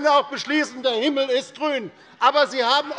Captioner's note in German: Zurufe von der CDU